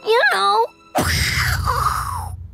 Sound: making explosion noises

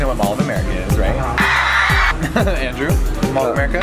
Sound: crowd screams

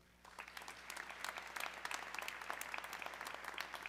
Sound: audience clapping

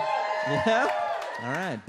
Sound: audience cheers

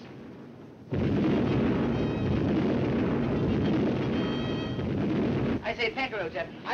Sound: artillery firing; bugle music

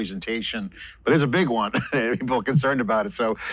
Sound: laughs

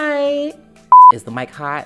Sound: beep

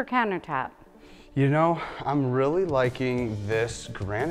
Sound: sighs

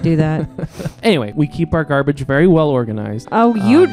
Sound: laughing

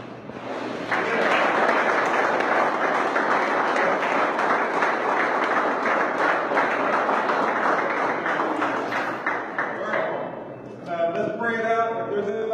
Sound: applause

